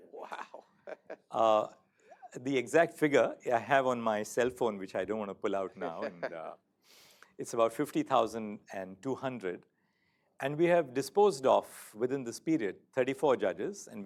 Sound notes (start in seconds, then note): 5.8 laughter